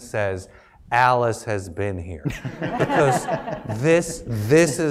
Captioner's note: laugh